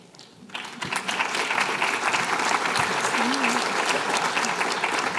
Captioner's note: applause